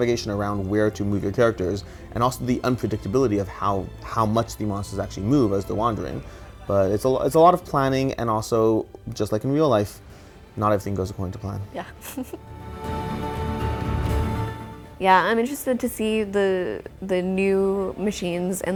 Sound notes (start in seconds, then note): 11.8 laughs